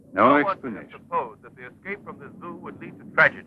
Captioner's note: announcer on Radio